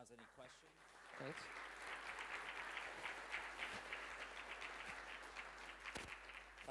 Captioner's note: applause